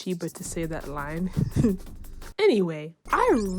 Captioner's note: snickers